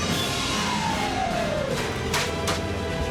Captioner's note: clanging